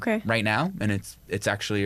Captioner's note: none